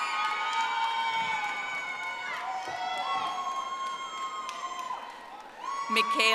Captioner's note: audience applauding